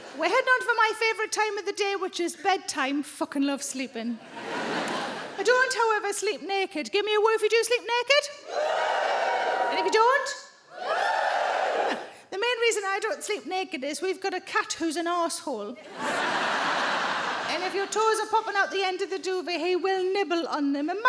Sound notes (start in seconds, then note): 4.2 audience laughing; 8.4 audience woos; 15.8 audience laughing